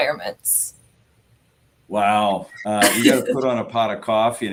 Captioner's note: laughter